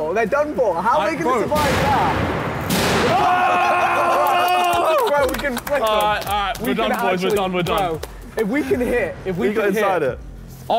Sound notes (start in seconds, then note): 2.7 metal clanking; 2.9 all cheering